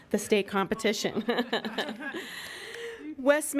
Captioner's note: laughing